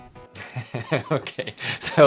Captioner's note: laughing